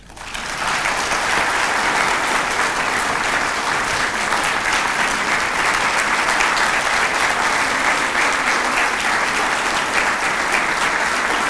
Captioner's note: applause